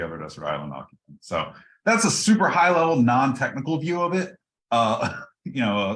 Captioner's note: laugh